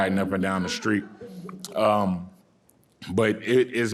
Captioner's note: audience laughing